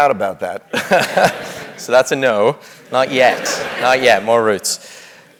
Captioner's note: laugh